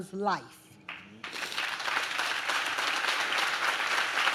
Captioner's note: audience claps